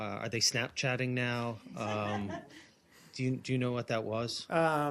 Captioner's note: laughter